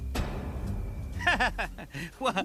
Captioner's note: laughing